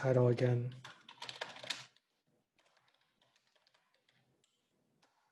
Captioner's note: keyboard clattering